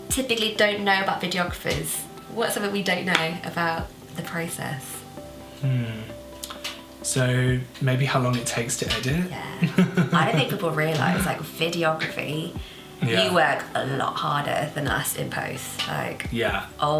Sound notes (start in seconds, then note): 9.4 chuckles